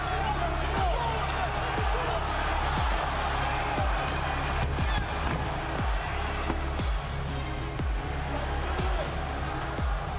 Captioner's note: crowd cheering